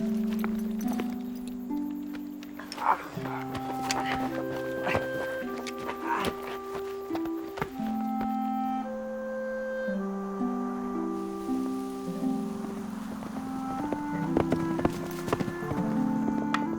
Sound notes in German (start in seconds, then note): 5.3 leise Instrumentalmusik; 11.3 Wind raschelt Büsche; 13.8 Pferd galoppiert